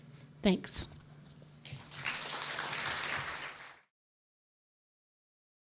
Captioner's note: audience applauding